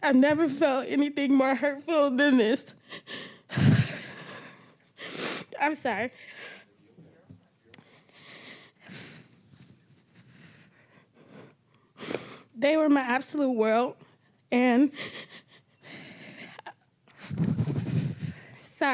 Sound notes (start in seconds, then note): 3.6 crying; 7.2 crying; 7.8 breathing shakily; 15.5 breathing shakily; 15.5 crying